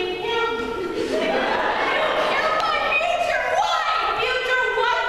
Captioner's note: audience Laughter